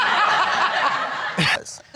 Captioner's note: all laughing